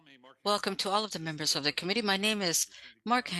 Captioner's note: speaking French